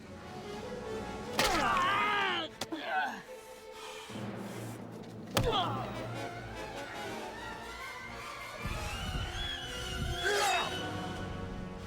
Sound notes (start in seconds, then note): 1.9 man yells; 5.4 man grunts; 8.2 dramatic music